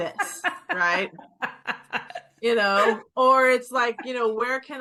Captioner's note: laughing